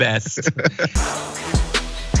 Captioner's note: laugh